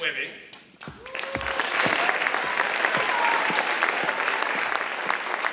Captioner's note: audience applauding